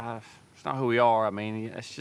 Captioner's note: none